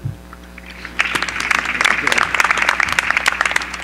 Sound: applause

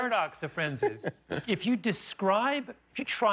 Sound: laughter

